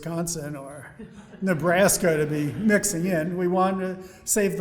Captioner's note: audience laughing